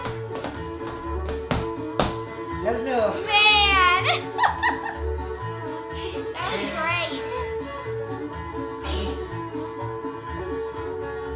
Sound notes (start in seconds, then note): 4.0 chuckling; 7.5 upbeat instrumental music